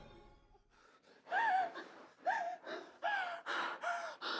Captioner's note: woman gasping and sobbing